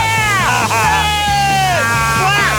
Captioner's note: laughing